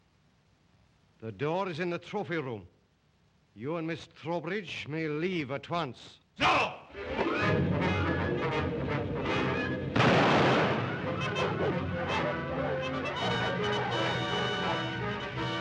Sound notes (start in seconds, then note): 7.0 suspenseful music; 9.9 gun fires; 11.2 dogs barking; 11.4 suspenseful music